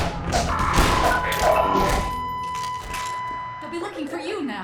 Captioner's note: flatline beeping